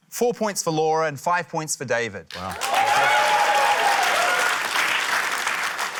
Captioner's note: cheering, applause